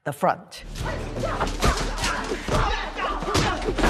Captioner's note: grunting